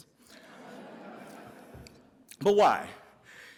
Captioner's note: audience laughs